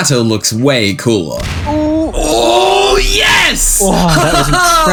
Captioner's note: explosion